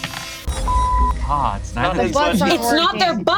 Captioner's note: beep